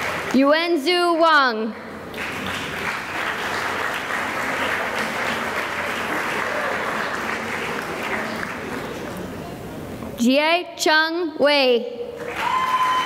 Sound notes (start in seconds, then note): 0.0 cheering and applause; 1.7 applause; 12.2 cheering and applause